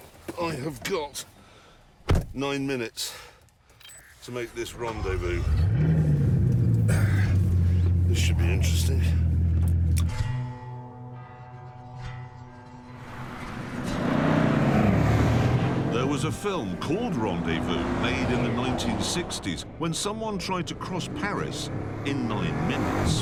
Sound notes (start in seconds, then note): 5.3 engine starts; 6.8 clears throat; 23.0 engine roaring